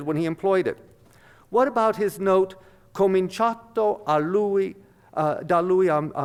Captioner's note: speaks Italian